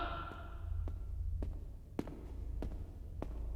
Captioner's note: voice echoing; mutters softly